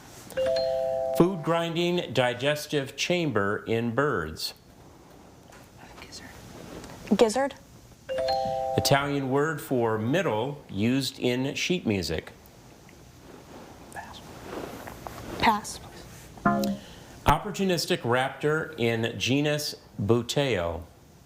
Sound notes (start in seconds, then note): 0.4 text chiming; 8.2 text chiming; 16.4 text buzzing